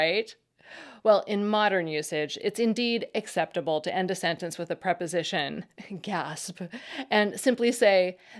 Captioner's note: gasp!